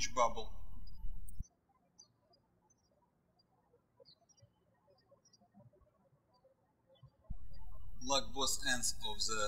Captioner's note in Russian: птички щебечут